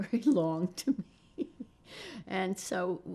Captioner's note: laughing